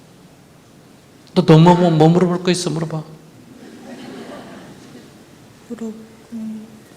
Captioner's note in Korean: 청중 웃음